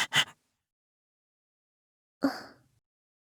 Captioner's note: silence